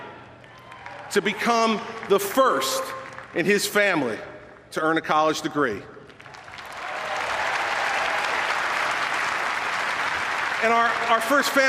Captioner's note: applause